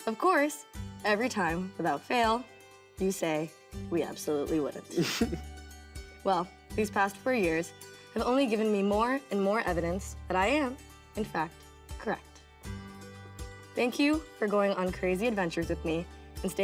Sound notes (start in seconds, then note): 4.9 Jaren laughs